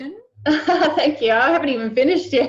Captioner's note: laughs